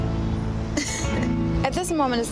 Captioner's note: laughing